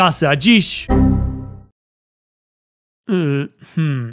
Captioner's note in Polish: dźwięk błędu Windows XP